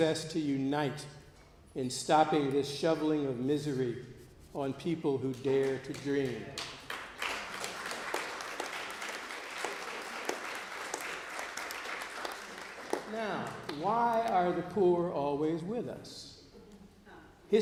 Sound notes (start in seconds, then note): 6.4 applause